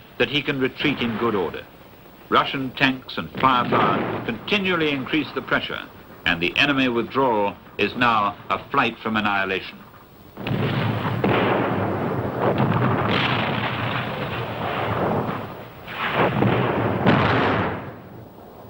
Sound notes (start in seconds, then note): 10.2 explosions booming